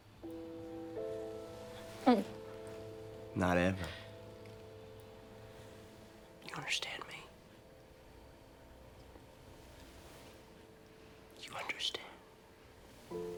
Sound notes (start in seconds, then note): 0.3 dramatic orchestral music; 1.8 gulps